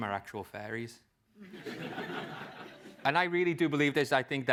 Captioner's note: laugh